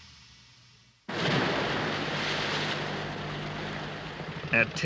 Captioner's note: guns firing